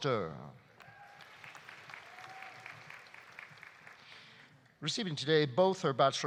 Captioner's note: audience applauding